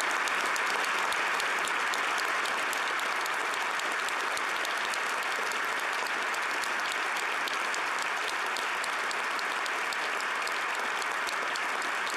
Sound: applause

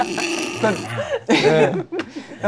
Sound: whispers

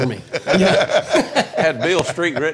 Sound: laughing

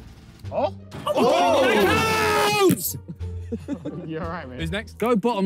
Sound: players shout

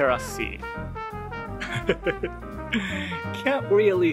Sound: chuckle

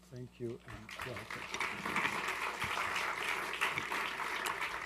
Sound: applause

